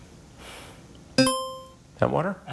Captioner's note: buzzer chimes